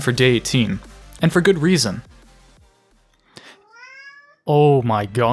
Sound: cat meows

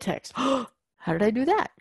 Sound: gasp

